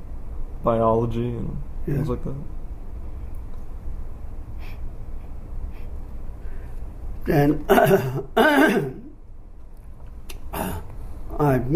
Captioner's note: clears throat